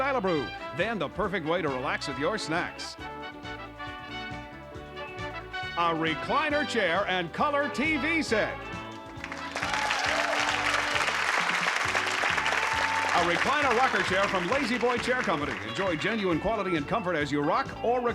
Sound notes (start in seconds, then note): 8.9 applause